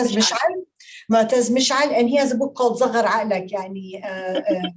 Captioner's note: speaking Arabic